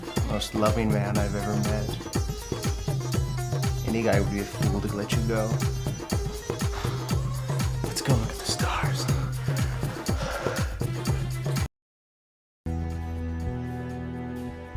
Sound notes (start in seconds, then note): none